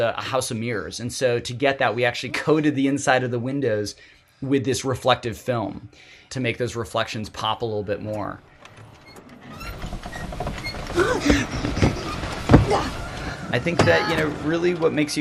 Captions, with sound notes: a house of mirrors. And so, to get that, we actually coated the inside of the windows with this reflective film to make those reflections pop a little bit more. [car window creaking] I think that, really, what makes